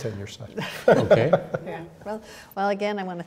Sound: laughing

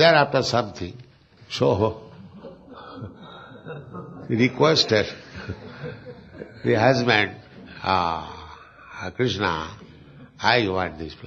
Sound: laughs

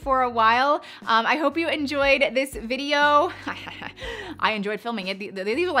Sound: woman laughing

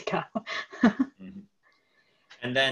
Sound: laughs

